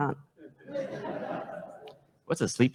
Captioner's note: laughter